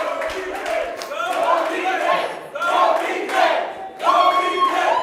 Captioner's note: audience chants "Go "